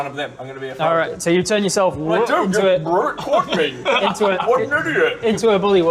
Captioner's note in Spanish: ribbit